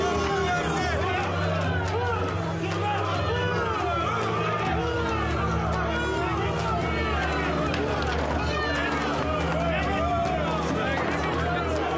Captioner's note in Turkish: Bağrışmalar duyulur